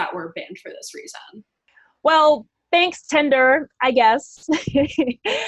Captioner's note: chuckles